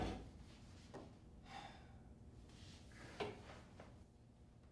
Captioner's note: sighing